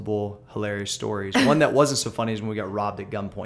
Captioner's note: laughter